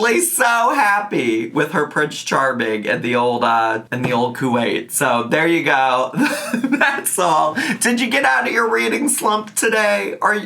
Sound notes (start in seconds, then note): 6.2 laughing